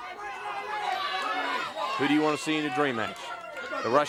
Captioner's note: crowd cheering